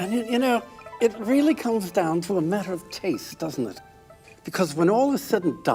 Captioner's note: none